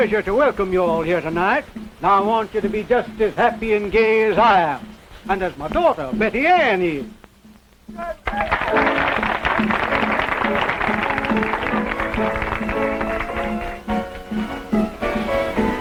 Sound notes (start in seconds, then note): 8.1 guests applauding; 10.6 drum beating